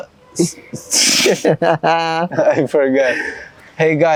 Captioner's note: laughter